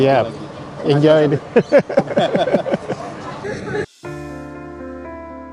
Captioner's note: laughs